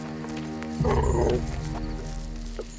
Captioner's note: grunting